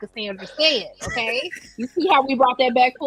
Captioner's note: laughing